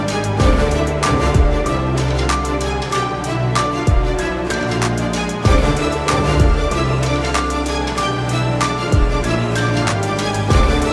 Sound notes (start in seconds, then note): none